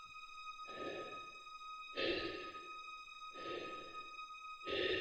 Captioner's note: Chemock breathes heavily